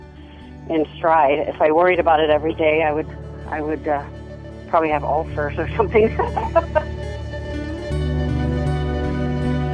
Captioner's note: laughs